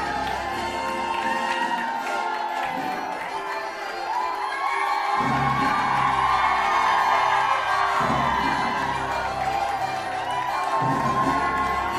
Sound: applause

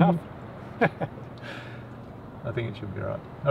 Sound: laughs

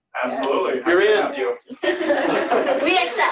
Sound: laughter

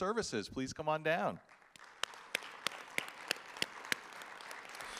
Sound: audience applauding

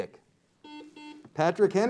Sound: buzzer beeps

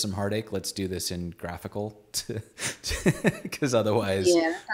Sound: laughs

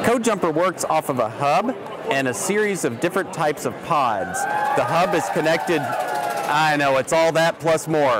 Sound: loud clapping in background

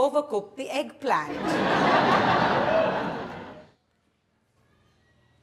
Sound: audience laughs

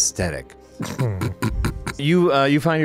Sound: chuckles

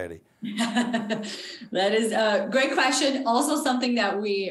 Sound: laughs

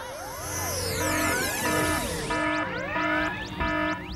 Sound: alarm!

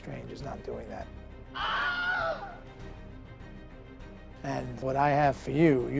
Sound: audible scream

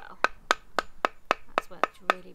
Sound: tapping sound

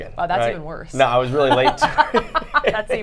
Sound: both laugh

